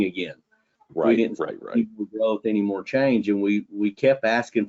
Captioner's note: audio distortion